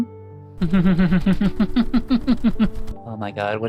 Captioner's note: flapping sleeves